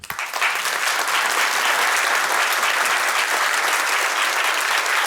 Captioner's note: audience applauding